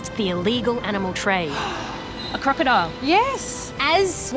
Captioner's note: gasps